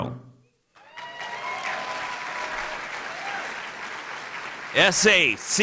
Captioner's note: cheering and Applause